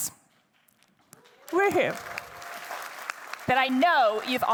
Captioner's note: attendees cheering